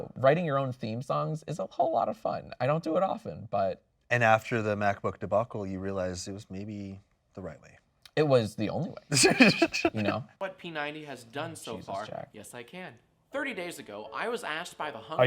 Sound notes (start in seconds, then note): 9.1 laughing